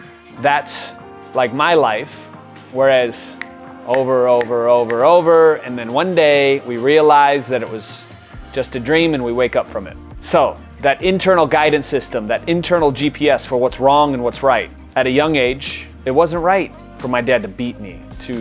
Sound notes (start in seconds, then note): 3.9 fingers snapping